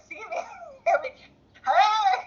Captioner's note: laughter